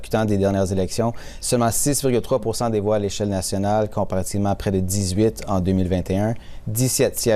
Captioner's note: speaking French